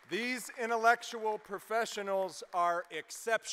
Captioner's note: applause